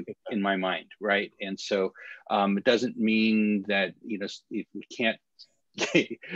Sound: laughter

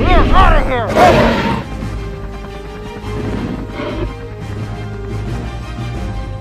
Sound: T-Rex growls and observes

